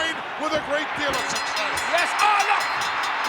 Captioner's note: bell rings